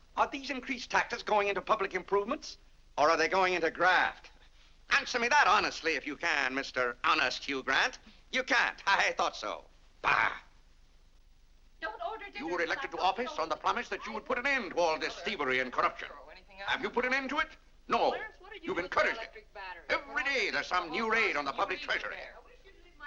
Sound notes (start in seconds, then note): 18.9 children bickering